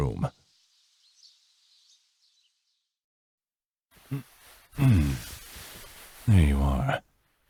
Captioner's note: bird chirping fades out